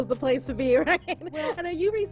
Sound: laughs

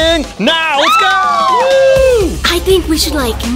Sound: all cheering

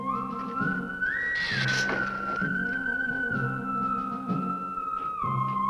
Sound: Gila monster hissing

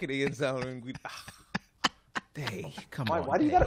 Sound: laughs

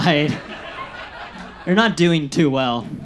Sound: audience laughs

